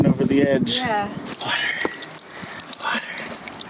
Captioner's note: whispering excitedly